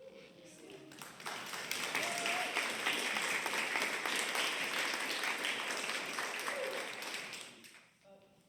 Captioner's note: applause